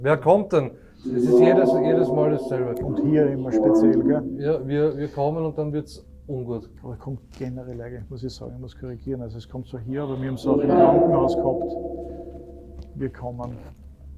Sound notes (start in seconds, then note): none